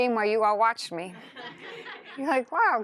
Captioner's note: laughter